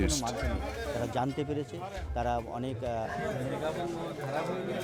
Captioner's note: foreign language